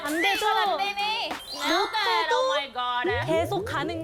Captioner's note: unbothered sound effect